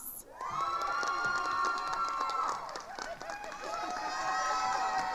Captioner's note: attendees cheering and applauding